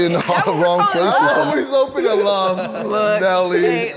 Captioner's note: laughs